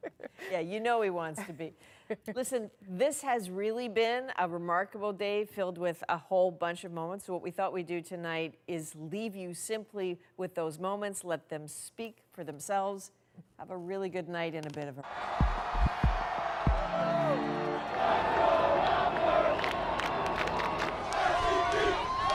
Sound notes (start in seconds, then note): 3.1 laughter